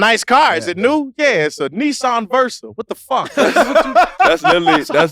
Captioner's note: laughs